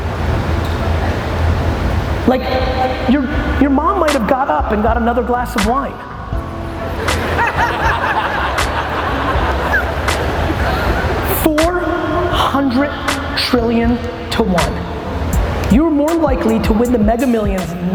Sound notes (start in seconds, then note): 6.8 audience laughs